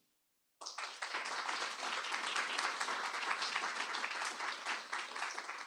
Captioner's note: applause